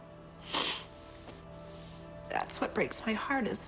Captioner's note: sniffles